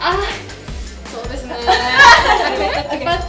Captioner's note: laughs